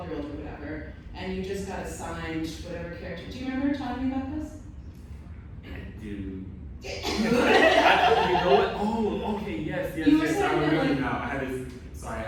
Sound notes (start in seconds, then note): 7.0 laughter